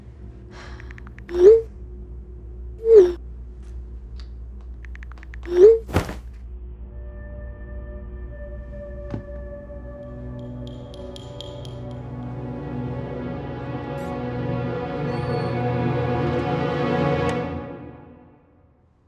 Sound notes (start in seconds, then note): 5.8 something falls over; 9.3 suspenseful music; 12.8 music intensifies